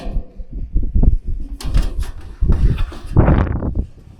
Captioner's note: wind blowing